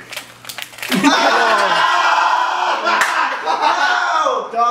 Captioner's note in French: gémissements